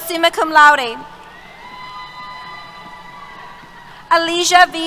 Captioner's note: cheers